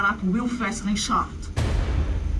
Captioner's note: gun fires